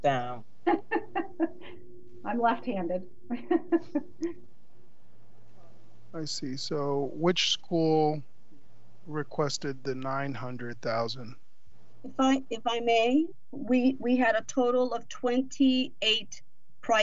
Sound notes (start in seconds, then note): 0.7 laughs; 5.7 voice muffled